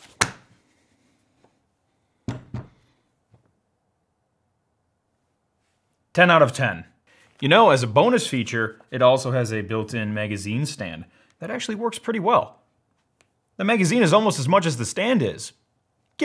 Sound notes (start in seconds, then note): 0.0 paper smacks table; 2.3 thud